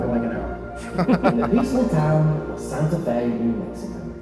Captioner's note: hosts laugh